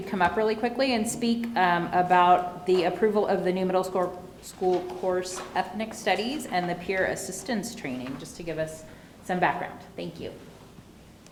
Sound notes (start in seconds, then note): none